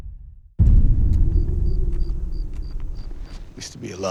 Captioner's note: birds chirping